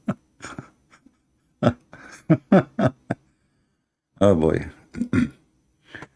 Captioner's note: Ketawa